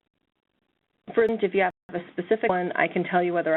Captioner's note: voiceover